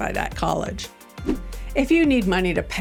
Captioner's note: gentle music; transition whooshing